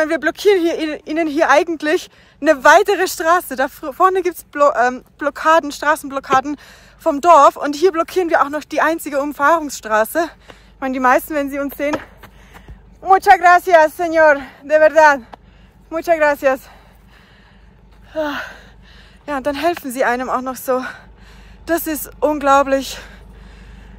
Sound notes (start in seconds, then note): 12.8 in Spanish